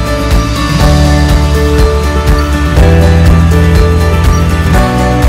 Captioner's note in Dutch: geluid van grasmaaiers